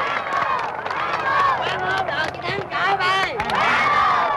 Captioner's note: cheering